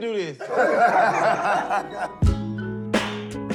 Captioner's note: laughter; hip-hop music